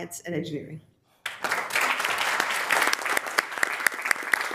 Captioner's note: members applauding